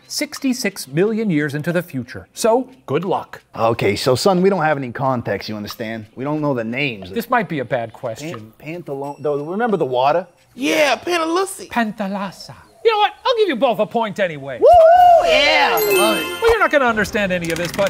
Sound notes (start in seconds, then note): 14.6 dinosaurs cheering